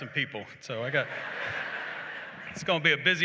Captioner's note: laughter